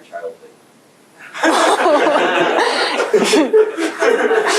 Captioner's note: laughter